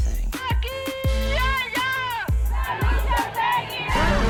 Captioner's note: non-english speech